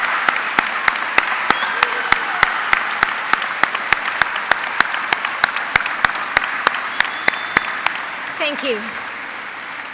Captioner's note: applause